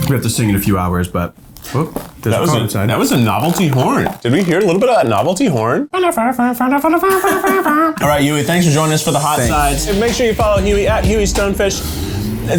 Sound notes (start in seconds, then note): 6.0 mimics a melodic horn; 6.9 laughs